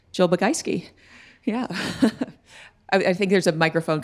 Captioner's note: laughing